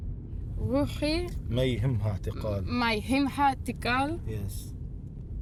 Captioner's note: speaking foreign language